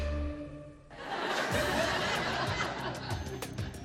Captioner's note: laughter